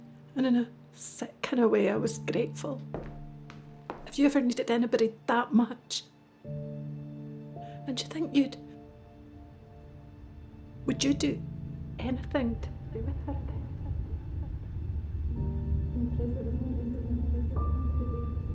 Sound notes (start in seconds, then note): 14.8 echoing